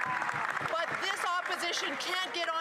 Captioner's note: some Applause